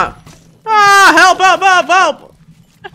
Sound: yelps

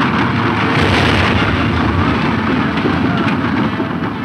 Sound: loud explosion

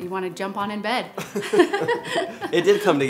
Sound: both laughing

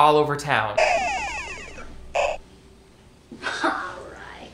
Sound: electronic laser explosion

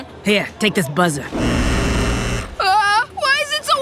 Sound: buzzing

